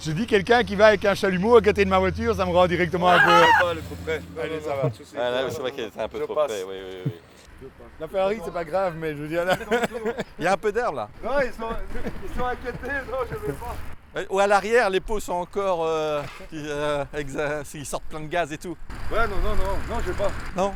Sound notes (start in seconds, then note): 3.0 cry of anxiety; 11.7 laughters